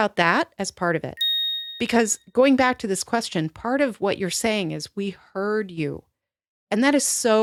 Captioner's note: ding